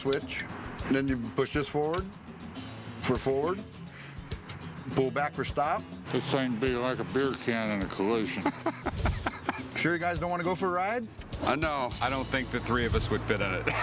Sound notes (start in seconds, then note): 8.3 laughter